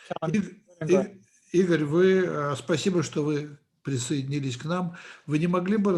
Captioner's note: translator speaking Russian language